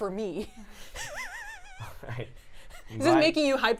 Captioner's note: chuckling